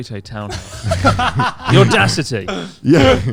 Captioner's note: all laughing quickly